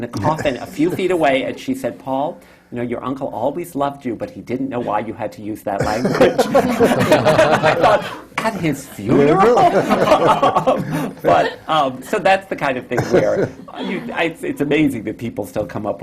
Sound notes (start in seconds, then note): 5.8 laughter; 10.1 laughs